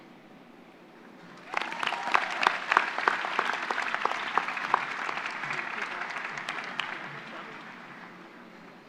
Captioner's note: applause